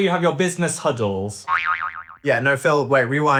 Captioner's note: spring boinging